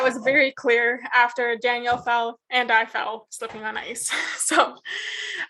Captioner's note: chuckles